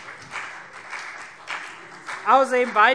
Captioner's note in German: Beifall CDU und BÜNDNIS 90/DIE GRÜNEN